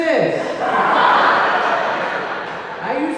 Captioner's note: audience laughing